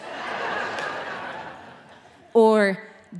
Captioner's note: audience laughing